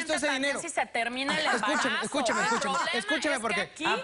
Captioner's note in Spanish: Risa sarcástica de la Doctora